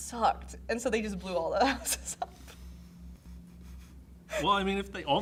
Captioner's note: chuckles